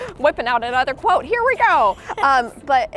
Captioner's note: laughs